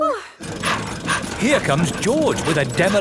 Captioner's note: daddy pig panting